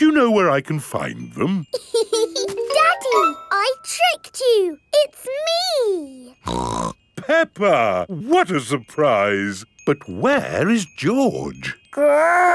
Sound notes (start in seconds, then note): 1.8 laughs; 6.4 snorts